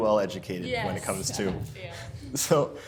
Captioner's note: laughs